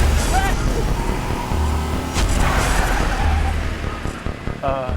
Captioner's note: van revs; Chris shouts